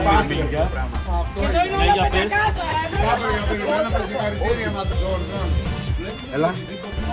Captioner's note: indistinct chatter and banter continues in Greek